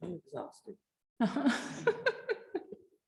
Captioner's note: chuckling